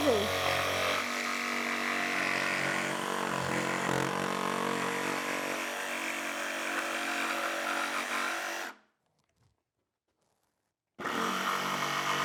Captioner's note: sawing